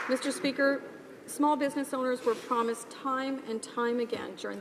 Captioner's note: some applause